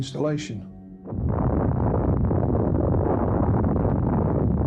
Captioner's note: bomb explodes